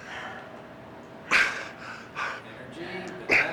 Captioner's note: Hogan panting